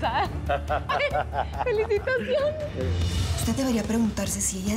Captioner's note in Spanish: risas